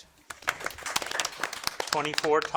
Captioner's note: audience applauding